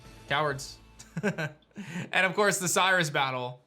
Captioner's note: chuckles